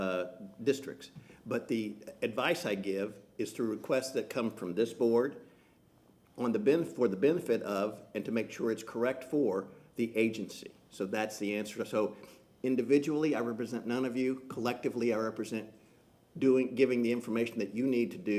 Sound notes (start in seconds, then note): none